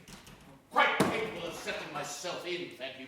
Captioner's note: item thudding